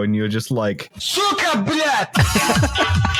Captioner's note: amidst static, shouting; hard techno music; laughter